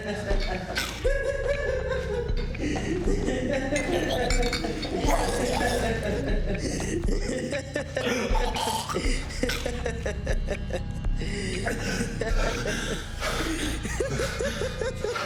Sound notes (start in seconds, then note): 0.2 Adam gagging; 2.9 dramatic music; 6.5 Ben laughing; 8.9 dramatic music